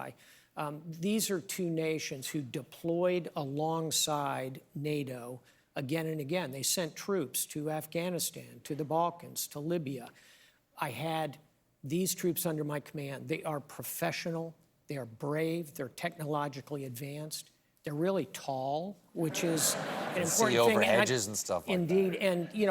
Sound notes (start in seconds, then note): 19.2 laughter